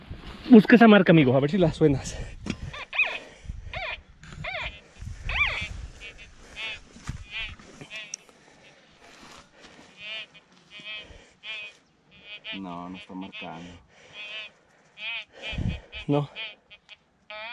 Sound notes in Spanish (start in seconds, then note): 2.9 sonidos de chillidos del detector